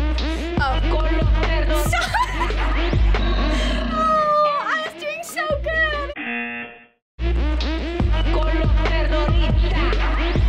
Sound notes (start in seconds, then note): 1.7 laughs; 6.3 buzzer